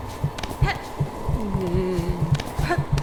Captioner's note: wiggle noise of almost wrecked my shit